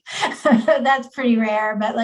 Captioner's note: chuckles